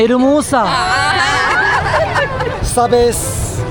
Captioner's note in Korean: 꺄르르 꺄르르